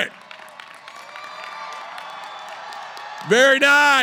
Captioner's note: cheering